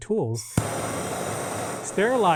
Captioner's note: torch hissing